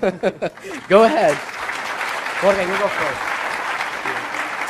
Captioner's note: applause